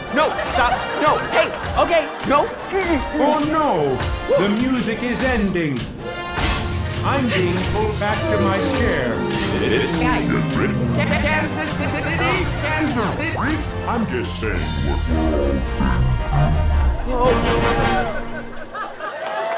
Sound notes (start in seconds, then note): 9.9 robotic voice glitches; 15.2 voice deepens and fades